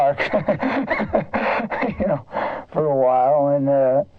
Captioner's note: laughs